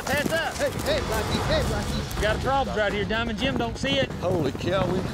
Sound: hoofbeats

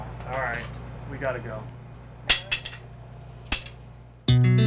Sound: sound effect of broomstick hitting the floor

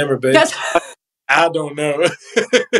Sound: laugh

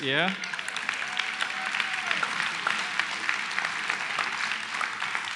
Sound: cheering and applause

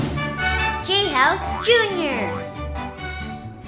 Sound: ball boings

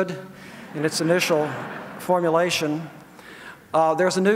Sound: audience laughs

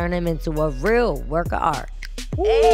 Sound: cheering

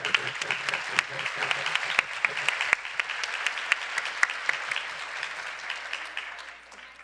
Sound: applause

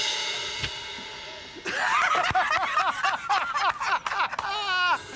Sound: cymbals crash; Jokers laughing

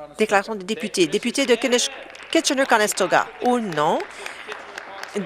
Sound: applause

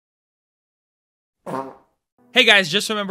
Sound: fart

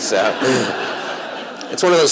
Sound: laughter

